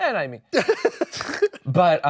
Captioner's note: laughing